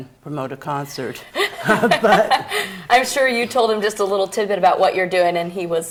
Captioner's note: laughing